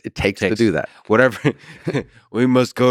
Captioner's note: chuckles